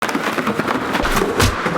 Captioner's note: items clattering; box slamming